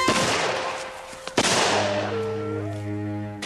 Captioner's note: whimpers